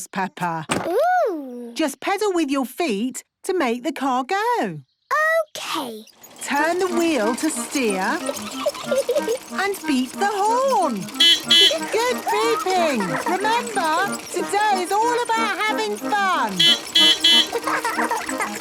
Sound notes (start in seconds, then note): 6.6 giggling; 10.5 beeping; 15.8 beeping; 15.8 laughing